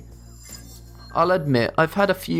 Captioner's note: futuristic ringing